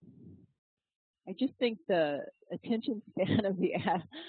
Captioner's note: laugh